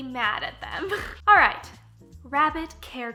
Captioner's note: laughing